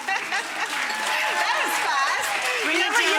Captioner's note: chef laughing; audience applauding